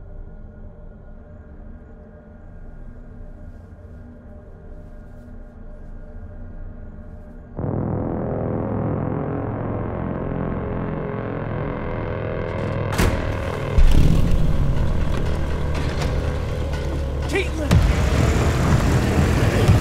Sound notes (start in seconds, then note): 8.3 dramatic music plays; 13.9 car engine starts